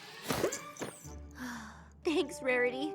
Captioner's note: sigh